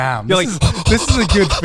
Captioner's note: panting